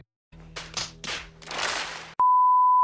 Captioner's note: clap; claps; a lot of claps